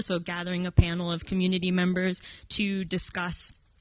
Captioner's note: none